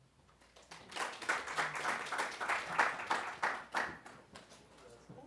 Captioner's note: applause